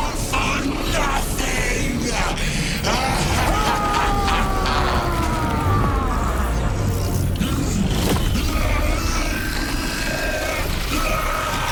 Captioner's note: screaming; screaming